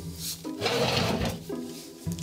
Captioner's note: loud push